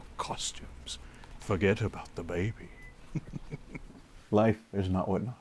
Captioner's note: laughs